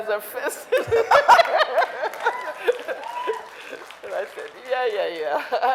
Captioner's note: audience laughing